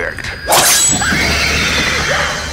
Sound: blades slice

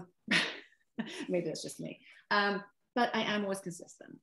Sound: chuckle

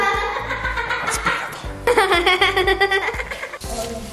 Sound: girls laugh; whispers; soft music

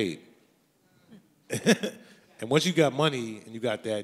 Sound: laughs

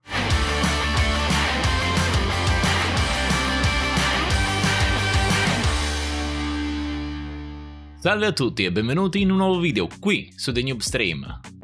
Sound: Applauso

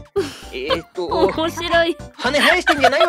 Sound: laughs

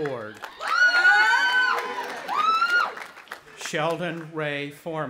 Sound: audience applauding and cheering

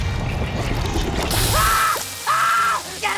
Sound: screaming

